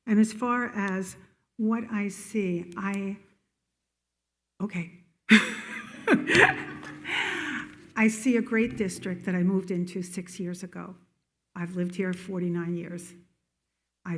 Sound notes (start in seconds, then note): 5.3 attendees laughing; 5.4 laughs